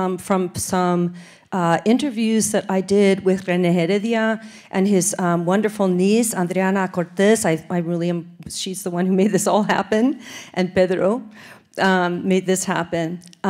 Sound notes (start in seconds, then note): none